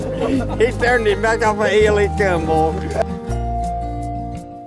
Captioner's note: group laughs